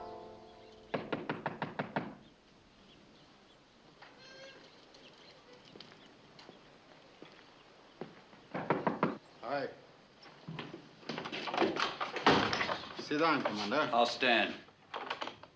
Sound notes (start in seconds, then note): 0.9 knocking on door; 8.6 knocking continues